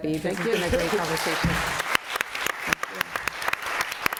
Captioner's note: applause